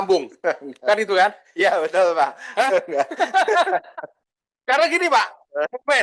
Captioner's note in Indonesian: tertawa